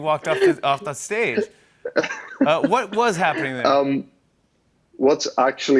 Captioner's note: laughs